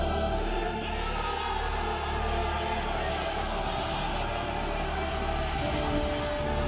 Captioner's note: all shouting